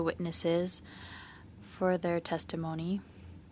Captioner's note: speaking French